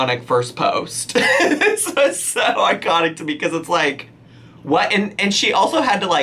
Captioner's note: laughing